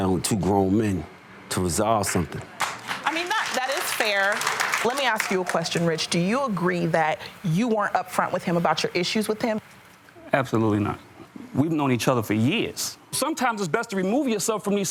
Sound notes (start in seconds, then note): 2.5 audience applauding